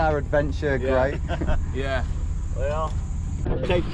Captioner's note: chuckling